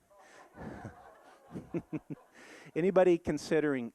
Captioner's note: audience laughing